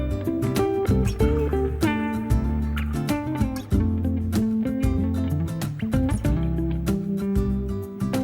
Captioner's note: kisses